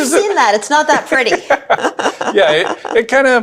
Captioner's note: laughs